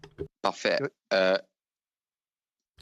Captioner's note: speaking FRENCH